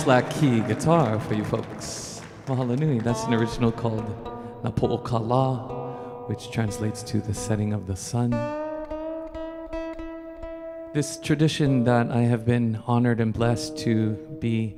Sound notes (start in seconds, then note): 5.9 speaking in Hawaiian